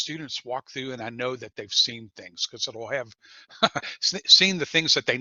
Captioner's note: laughter